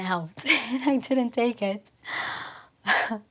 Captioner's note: laughing